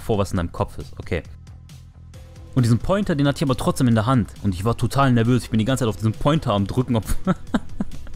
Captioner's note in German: Bad Ass Gelächter